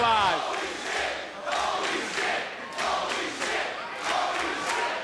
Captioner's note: audience cheering